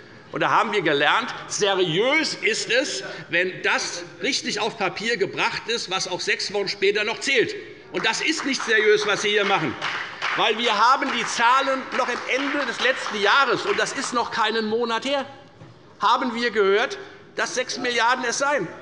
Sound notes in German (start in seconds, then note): 8.0 Beifall bei der FDP